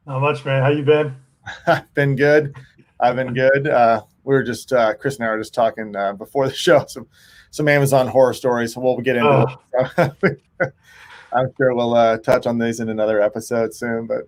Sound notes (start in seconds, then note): 1.4 chuckles; 9.7 both chuckling